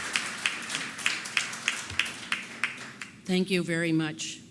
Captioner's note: applause